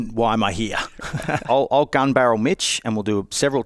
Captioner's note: chuckles